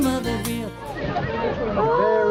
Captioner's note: boat passengers exclaim